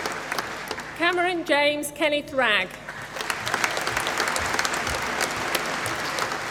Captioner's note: applause